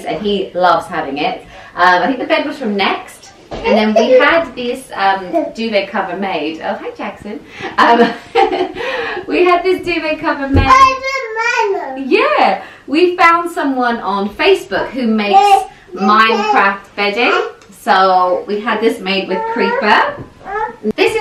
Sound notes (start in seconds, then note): 8.3 laughing; 10.6 baby babbling